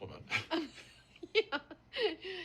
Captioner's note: laughs